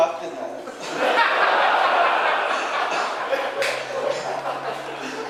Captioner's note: audience laughing